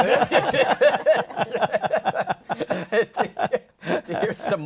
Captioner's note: laughter